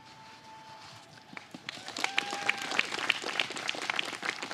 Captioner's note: applause